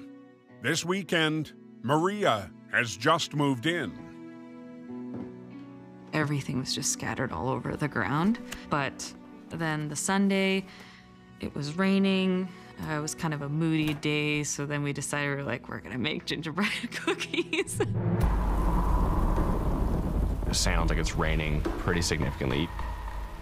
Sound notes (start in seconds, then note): 16.9 laughs